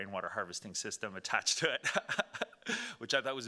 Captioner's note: laughing